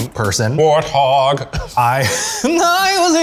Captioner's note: laugh